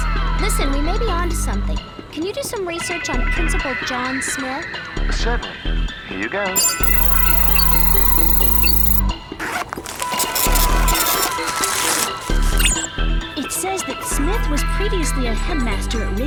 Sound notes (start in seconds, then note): 6.5 beeping; 9.9 printing noise